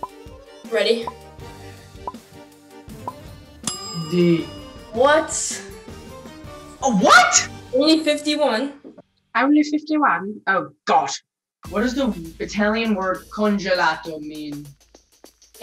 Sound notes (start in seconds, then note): 3.6 timer ding